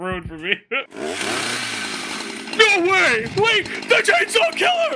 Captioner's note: chainsaw revs